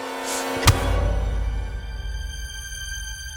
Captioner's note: loud thud